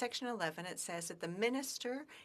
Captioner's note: speaking French